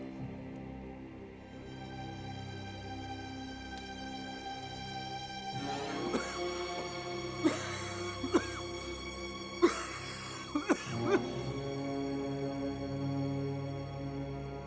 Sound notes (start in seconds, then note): 7.4 coughing; 11.7 dramatic music